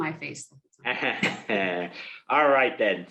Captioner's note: laughs